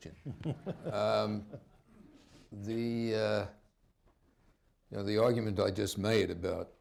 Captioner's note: laughter